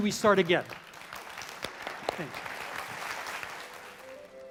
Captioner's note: applause